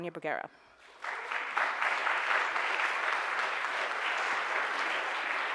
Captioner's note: audience applauds